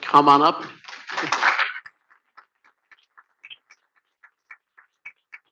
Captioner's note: audience clapping